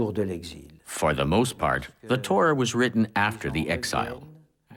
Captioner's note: none